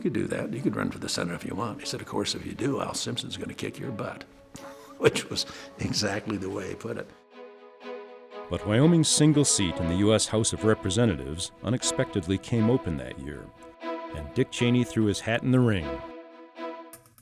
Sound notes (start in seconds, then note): 4.7 laughs; 8.3 voiceover